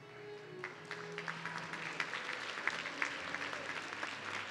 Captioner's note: audience clapping